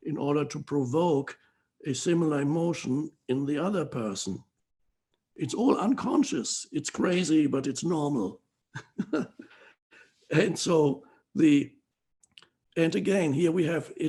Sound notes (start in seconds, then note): 8.7 laughs